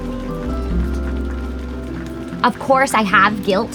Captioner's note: rain drops